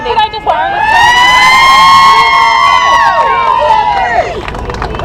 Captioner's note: cheers